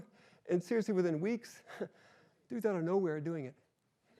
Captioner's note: chuckles